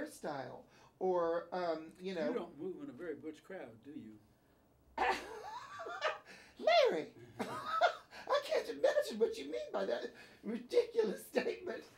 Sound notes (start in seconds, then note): 5.0 laughs; 7.3 Bunny laughing